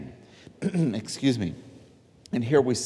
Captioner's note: clearing throat